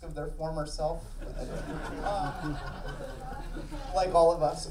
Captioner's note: audience laughing